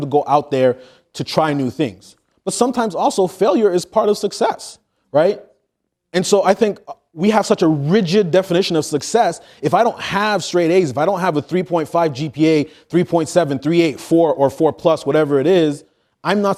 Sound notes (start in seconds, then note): none